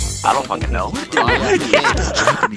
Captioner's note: laughs in Mouse